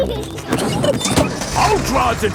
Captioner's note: peppa and george laughing